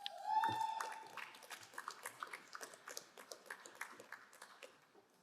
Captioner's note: crowd cheering and applauding